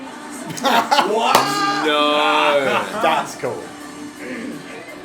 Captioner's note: laughing